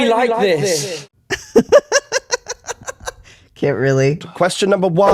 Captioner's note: echoing; laughter